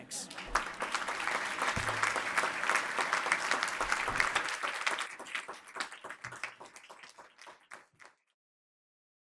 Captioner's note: applause